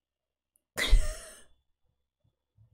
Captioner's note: laughs